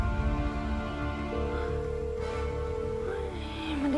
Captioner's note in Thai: เสียงโทรศัพท์